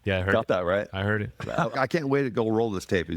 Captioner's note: laughing